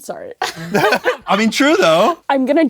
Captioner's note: both laugh